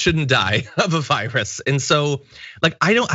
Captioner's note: laugh